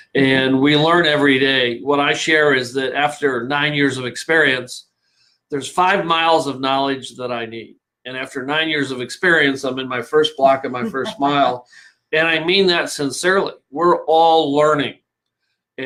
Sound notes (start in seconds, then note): 10.2 laughing